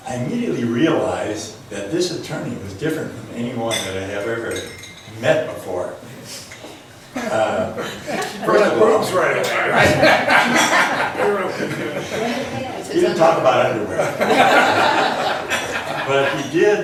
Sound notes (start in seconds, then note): 7.1 laughs; 9.9 overlapping chatter; 13.8 laughs